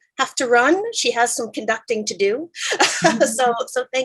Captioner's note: laughs